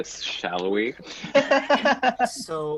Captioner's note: laughs